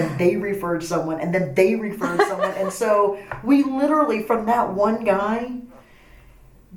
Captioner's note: laughs